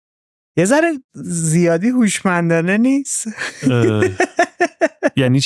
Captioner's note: laughs